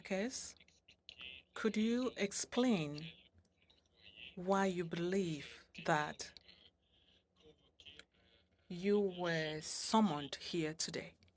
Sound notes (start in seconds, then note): 4.4 speaking French